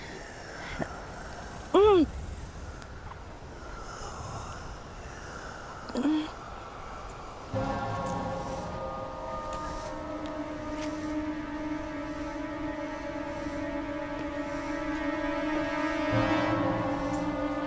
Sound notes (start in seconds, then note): 0.1 voice whispers; 1.7 Nora grunts; 3.8 voice whispers; 8.4 dramatic music